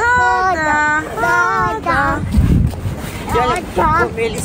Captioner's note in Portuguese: cantarola